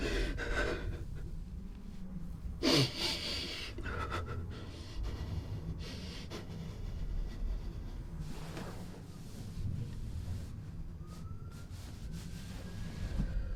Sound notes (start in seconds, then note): 0.0 deep sobs